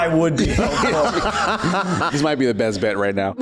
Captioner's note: laughs